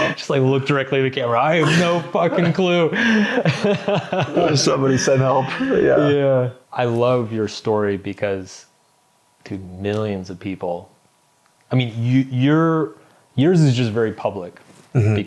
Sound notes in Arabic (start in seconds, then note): 1.6 يضحك